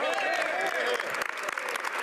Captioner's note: speaking French